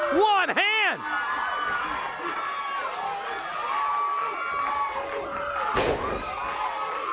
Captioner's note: crowd cheering